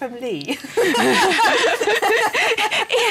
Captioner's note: laughter